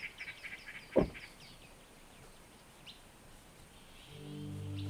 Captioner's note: car door slams; brooding music